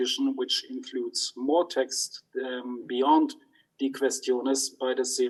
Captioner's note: speaks in foreign language